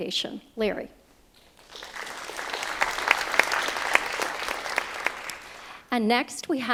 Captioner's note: applause